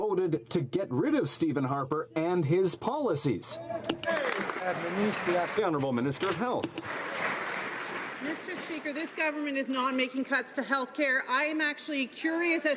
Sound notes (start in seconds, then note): 6.7 some Applause